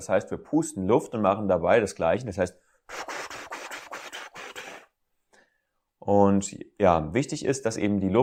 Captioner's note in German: pustet Luft